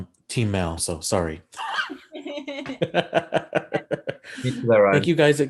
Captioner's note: laughing